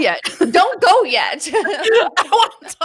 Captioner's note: both laughing